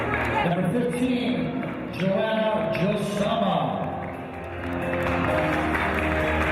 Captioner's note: applause